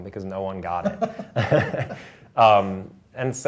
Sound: laughter

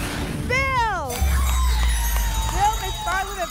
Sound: applause and cheering

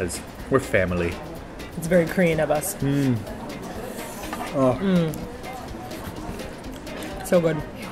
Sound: mmmm

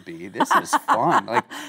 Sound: Kate laughing

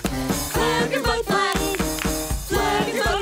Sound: clap clap clap

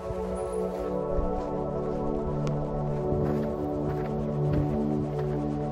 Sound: footsteps crunching

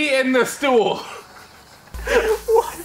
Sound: laughs

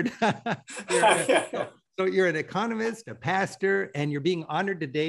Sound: both chuckle

